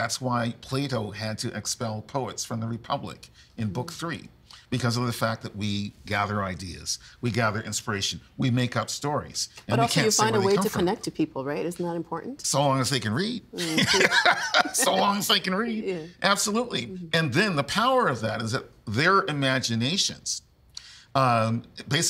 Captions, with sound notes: That's why Plato had to expel poets from the Republic in book three because of the fact that we gather ideas, we gather inspiration, we make up stories, But also you find a way to connect to people, right? Isn't that important? So long as they can read. (Laughing) So, long as they can read. Absolutely. And then the power of that is that their imaginations